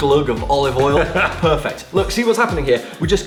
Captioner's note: laughs